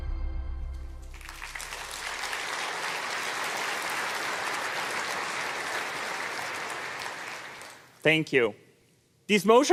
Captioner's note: applause